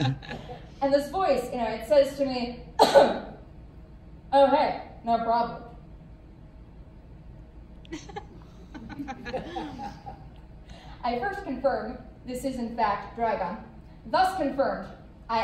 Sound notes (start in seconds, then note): 2.8 ahem; 4.1 douche voice; 7.9 laughter